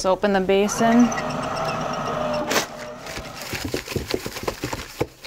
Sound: towel dispenser whirring

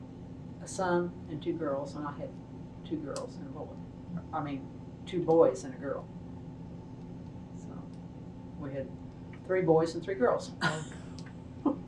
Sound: laughs

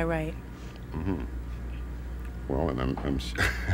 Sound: laughing

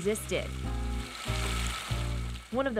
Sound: running water

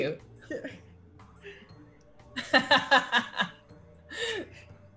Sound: laugh

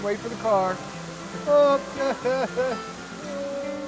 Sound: chuckles

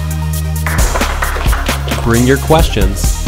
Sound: audience clapping

